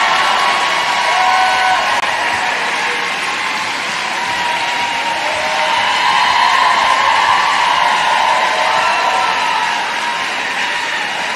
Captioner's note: applause